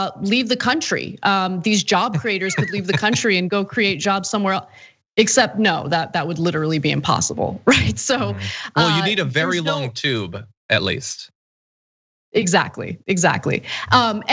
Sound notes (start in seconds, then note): 1.8 laugh